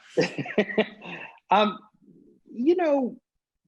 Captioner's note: laughing